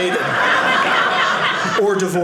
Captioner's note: audience laughing